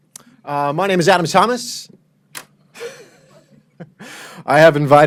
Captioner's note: laughs